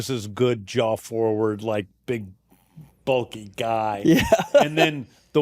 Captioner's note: laughs